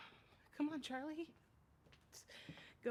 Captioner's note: voice breaking